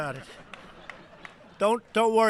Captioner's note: laughter